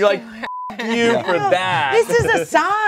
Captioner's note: beep